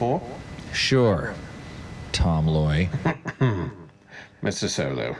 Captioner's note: laughs